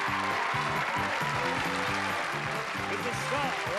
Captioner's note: applause